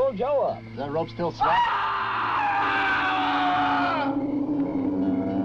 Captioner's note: Joe screaming